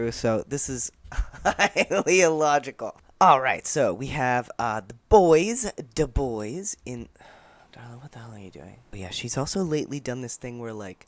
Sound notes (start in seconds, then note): 1.2 laughing; 7.2 sigh